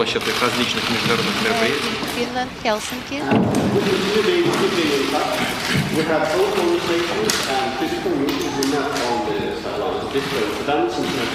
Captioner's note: speaking non-english